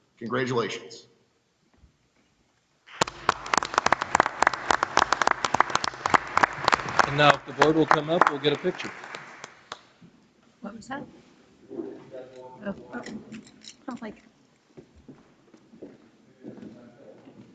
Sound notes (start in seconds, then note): 2.8 audience applauds; 12.3 people speak distantly